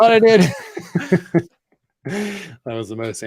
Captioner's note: laughs